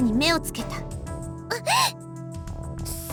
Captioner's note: gasp